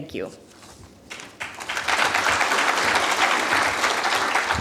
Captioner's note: applause